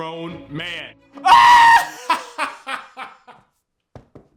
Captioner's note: laughing